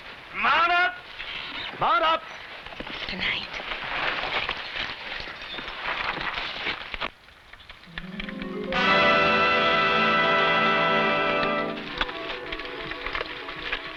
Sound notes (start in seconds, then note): 3.2 whispers; 7.9 tense music